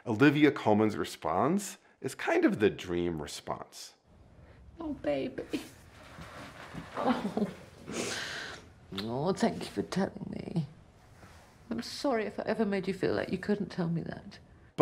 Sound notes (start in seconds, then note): 7.8 sniffles